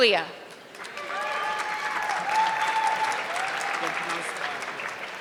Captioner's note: audience clapping